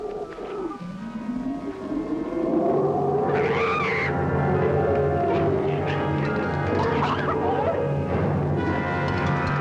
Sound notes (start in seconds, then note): 3.4 screams